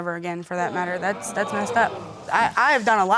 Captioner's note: audience exclaiming